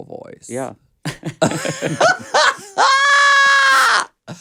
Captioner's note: both laughs